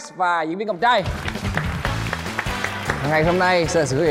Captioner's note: applause